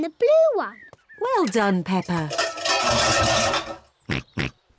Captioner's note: cans clatter; snorts